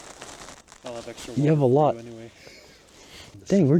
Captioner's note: chuckles; chuckles